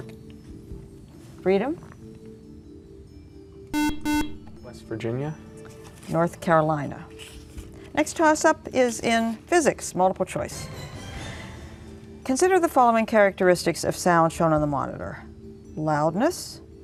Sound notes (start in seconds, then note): 3.7 buzzer